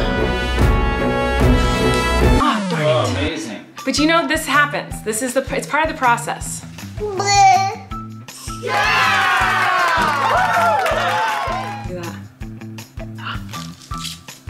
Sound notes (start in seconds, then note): 0.0 dramatic music; 7.0 babbles; 8.5 voices cheer